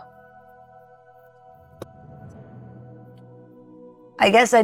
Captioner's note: fingers snap